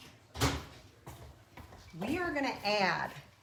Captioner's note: door slams